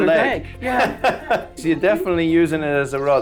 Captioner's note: Noel laughs